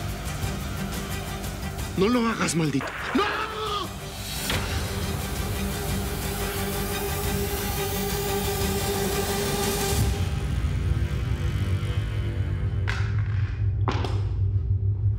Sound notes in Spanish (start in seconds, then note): 2.8 detonación de disparo